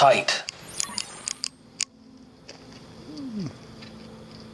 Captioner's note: flashlight clicking